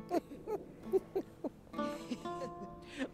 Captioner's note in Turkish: Gülme sesleri